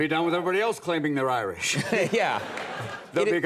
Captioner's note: audience laughs